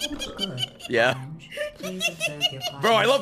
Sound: laughs

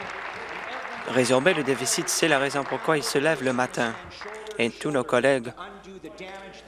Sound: applause

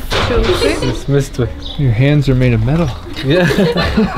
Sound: laughter

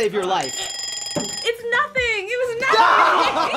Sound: timer ringing; laughs

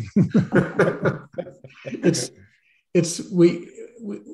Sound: laughs

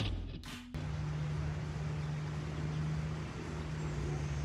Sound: engine humming

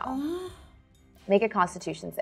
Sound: moans

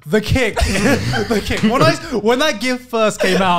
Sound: laughing

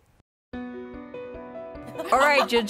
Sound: tender music; laughing

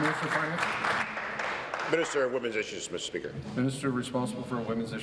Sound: applause

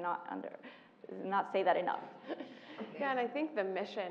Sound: laugh

